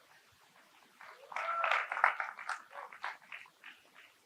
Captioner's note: audience clapping